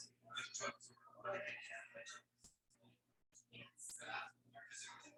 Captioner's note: people chattering indistinctly